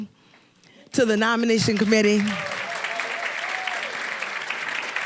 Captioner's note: applause